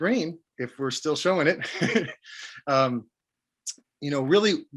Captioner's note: laughs